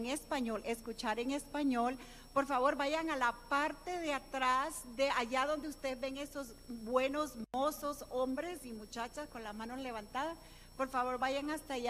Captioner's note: speaking non-english language